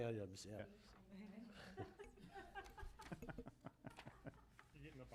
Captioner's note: laughter